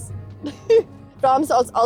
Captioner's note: giggles